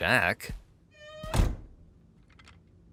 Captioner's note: door creaks